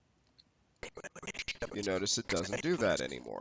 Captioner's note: audio skipping